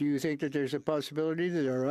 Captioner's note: speaking French